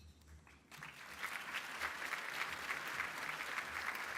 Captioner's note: applause